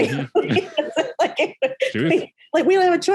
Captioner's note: all laughing